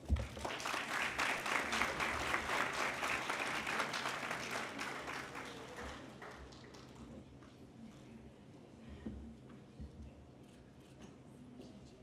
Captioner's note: applause